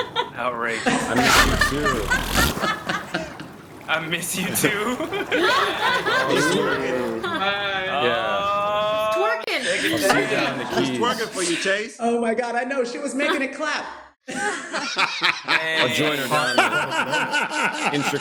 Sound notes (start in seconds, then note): 1.0 dolphin blusters; 2.0 laughter; 14.2 laughter; 16.1 laughs